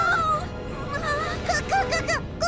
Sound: exclaims

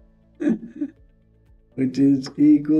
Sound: chuckles

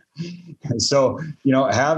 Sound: laughs

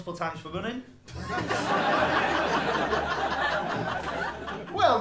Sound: laughter

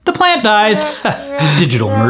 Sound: chuckles

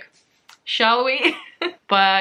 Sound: laughs

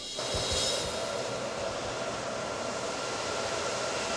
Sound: fans whirring

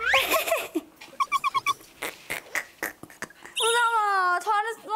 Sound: chuckles

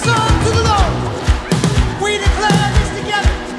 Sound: crowd clapping

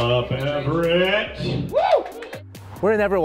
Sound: crowd cheering

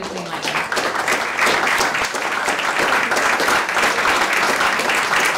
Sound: audience applauding

